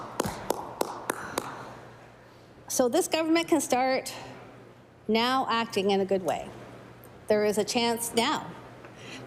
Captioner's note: some Applause